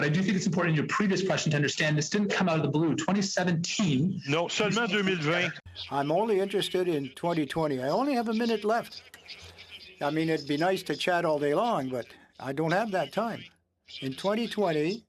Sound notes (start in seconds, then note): 11.1 speaking French